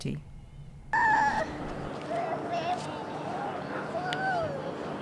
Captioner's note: whimpers